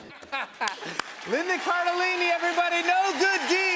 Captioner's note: laughter